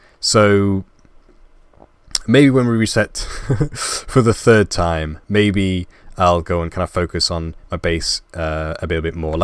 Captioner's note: laugh